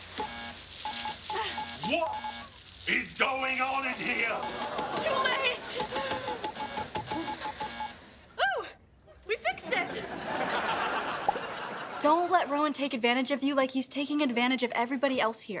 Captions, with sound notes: [buzzer buzzing] What is going on in here? Too late! [buzzer buzzing] Ooh, we fixed it. [audience laughing] Don't let Ron take advantage of you like he's taking advantage of everybody else here.